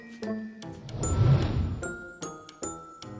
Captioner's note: whooshing; upbeat music